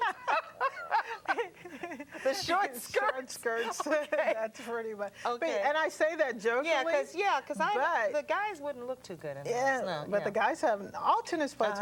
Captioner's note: laughter